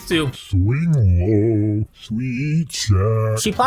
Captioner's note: low, distorted voice